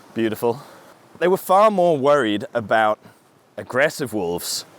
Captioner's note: none